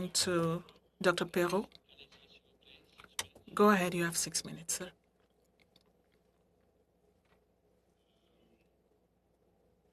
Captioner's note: speaking French